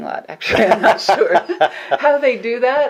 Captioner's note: both laugh